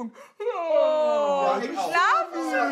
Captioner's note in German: Gespieltes Gähnen